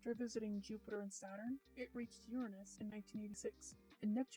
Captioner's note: none